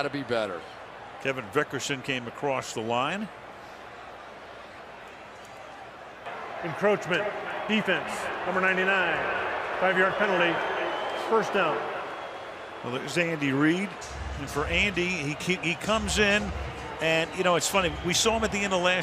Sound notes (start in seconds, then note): 9.6 booing